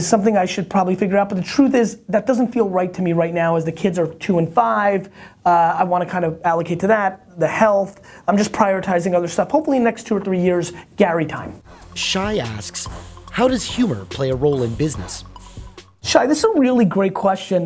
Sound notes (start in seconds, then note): 11.7 voiceover